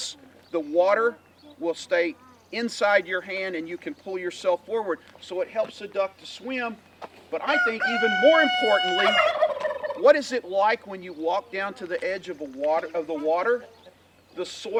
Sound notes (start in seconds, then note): 7.4 turkey gobbles; 7.4 cock crows